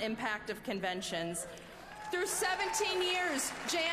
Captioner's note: applause